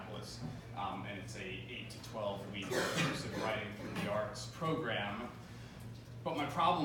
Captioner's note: coughing